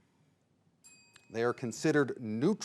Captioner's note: bell dings